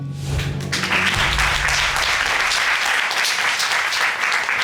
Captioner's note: audience applauding